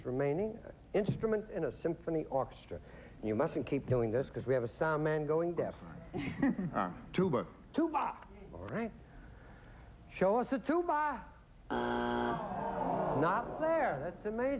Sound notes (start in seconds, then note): 11.7 buzzer